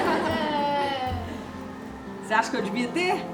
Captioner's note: laughs